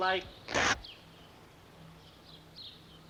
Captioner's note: fabric rips